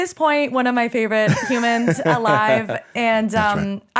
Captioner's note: laughing